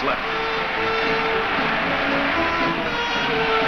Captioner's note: crowd cheers